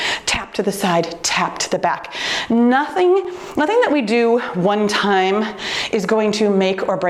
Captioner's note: none